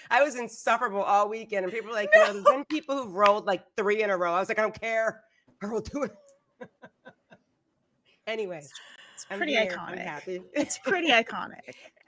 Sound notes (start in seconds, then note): 2.0 laughing; 6.6 laughs